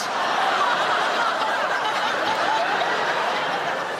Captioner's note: audience laughs